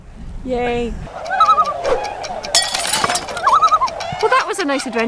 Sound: swans honking

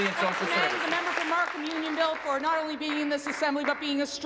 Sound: applause

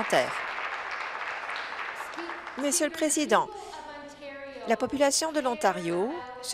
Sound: applause

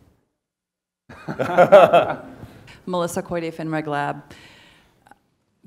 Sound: laugh

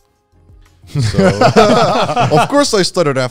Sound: all laughing

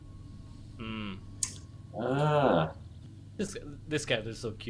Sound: tsk

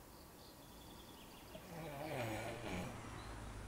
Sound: snoring

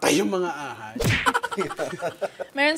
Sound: chuckling

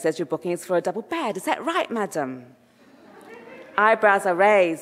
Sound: audience laughing

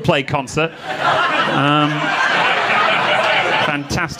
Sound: audience laughing

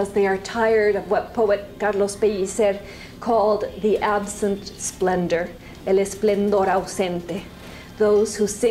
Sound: spanish

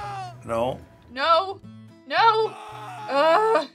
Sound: man screaming

